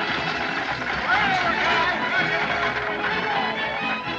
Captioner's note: all Shouting